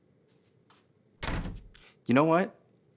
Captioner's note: door closes